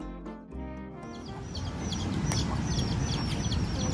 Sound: chicken chirp sounds

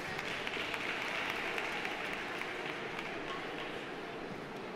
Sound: audience applauding

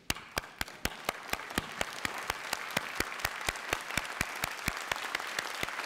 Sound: applause

